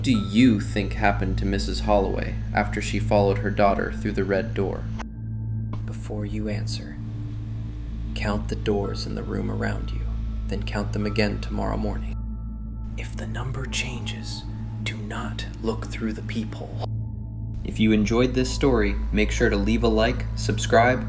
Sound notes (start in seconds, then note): 5.1 quietly; 12.2 whispers